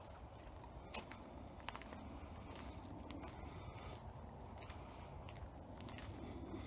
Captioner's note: birds chirping; footsteps tapping